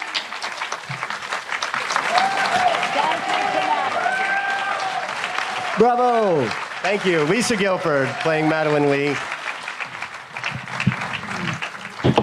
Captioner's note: applause